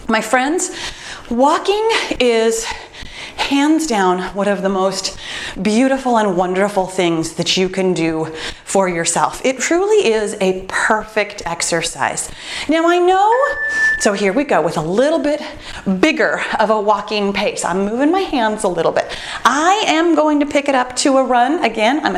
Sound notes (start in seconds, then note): 13.3 timer beeps